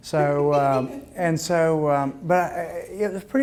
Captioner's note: woman laughing